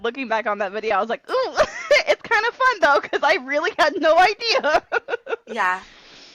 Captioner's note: laughter